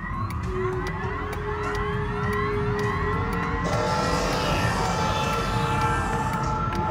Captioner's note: machinery engages